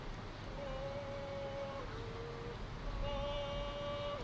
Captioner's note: cadence calls